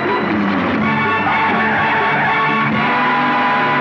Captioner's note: Tires Screeching